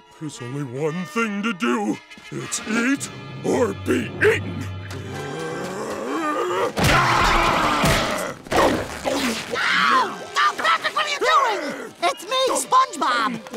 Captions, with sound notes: There’s only one thing to do. It’s eat or be eaten. [groaning] [yelling] Ow! Patrick what are you doing? It’s me, SpongeBob!